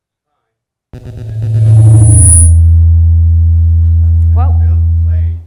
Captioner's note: microphone reverberates loudly